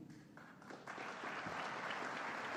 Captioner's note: applause